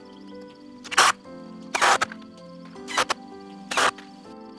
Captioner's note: whirring